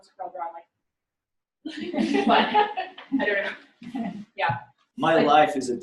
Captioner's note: laughter